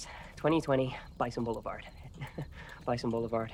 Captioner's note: chuckles